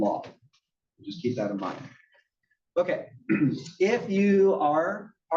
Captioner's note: cough